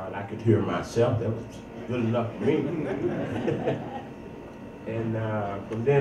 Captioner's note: all chuckle